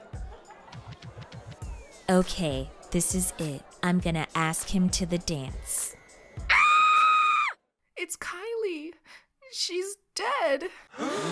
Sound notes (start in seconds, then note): 6.4 Kendall screaming; 10.9 crowd gasps